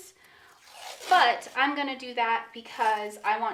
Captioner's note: masking tape rustling